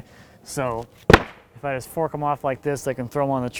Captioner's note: wood clunking